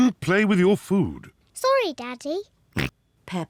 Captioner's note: oinks